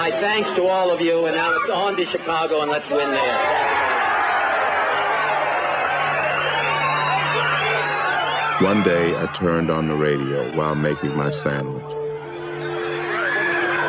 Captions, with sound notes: My thanks to all of you, and now it's on to Chicago and let's win there. (audience cheering) (whistling and cheering) >> One day, I turned on the radio while making my sandwich...